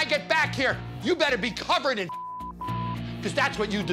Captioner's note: beep